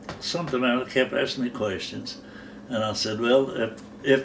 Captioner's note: none